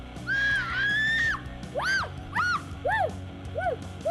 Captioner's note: screams